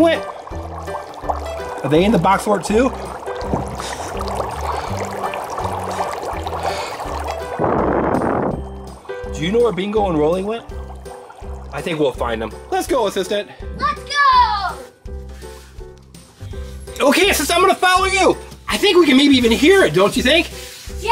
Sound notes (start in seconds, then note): 0.3 bubbling; 3.1 bubbling; 4.0 soft upbeat music; 7.8 blowing